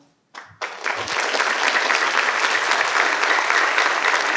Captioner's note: participants applaud